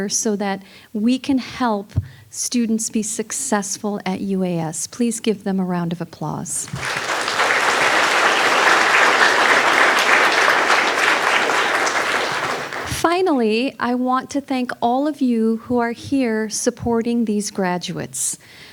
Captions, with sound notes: so that we can help students be successful at UAS. Please give them a round of applause. (audience applauding) Finally, I want to thank all of you who are here supporting these graduates.